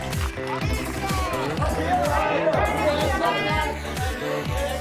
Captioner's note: photographers shout